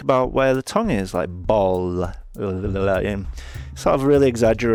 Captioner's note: ululating